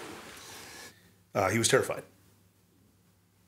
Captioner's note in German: englisch